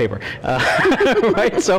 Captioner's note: laughter